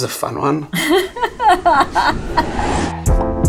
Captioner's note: laughs; gentle music